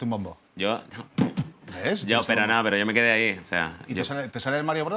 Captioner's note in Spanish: hace beatbox